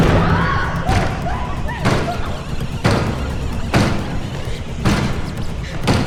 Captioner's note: tense music; door slamming